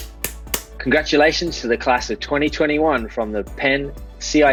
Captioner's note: claps